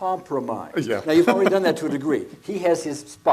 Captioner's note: laughs